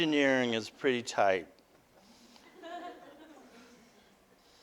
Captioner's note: audience: Laughter